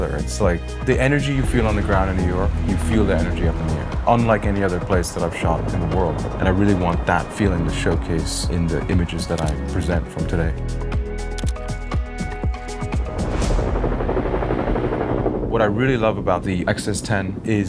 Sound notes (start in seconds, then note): 12.6 helicopter whirring